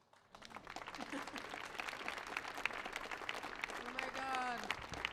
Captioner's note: audience applauds